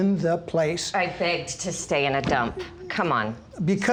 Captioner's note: sarcastically